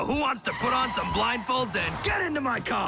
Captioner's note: tires screech